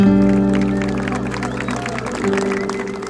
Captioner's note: applause